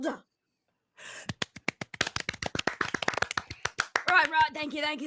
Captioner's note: group clapping